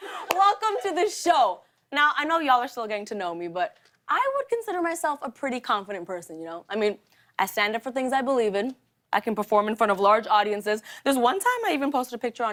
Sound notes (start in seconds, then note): none